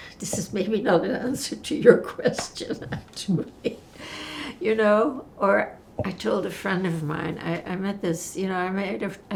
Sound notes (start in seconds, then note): 3.4 laughing